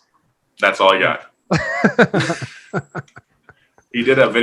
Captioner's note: laughing